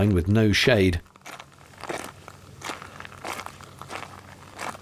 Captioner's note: more gravel footsteps